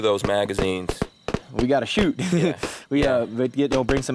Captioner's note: laughs